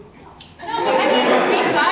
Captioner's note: audience laughs